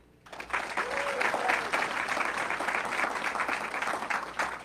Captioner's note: audience clapping